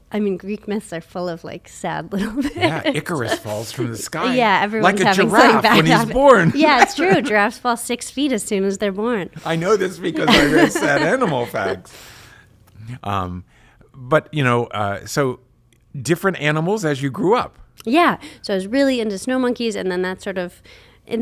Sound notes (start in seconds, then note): 2.2 laughs; 12.1 both laugh